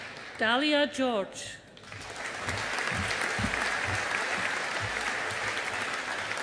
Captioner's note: audience applauding